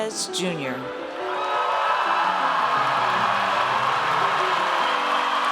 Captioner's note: audience cheers